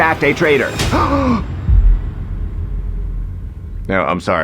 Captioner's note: ESFJ gasps